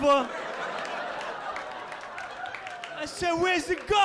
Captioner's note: audience laughing